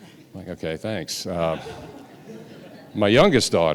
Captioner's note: audience laughing